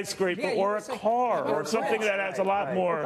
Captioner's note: laughter